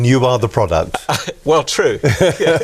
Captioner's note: laughing